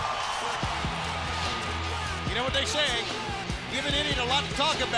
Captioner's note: crowd chatter